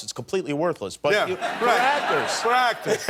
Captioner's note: laughter